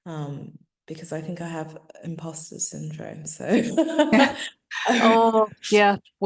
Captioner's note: laughing